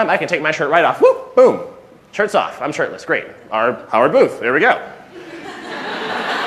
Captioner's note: laughter